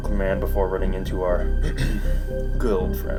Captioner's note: ahem